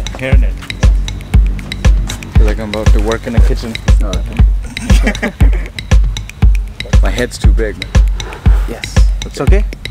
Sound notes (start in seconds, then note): 4.6 laughs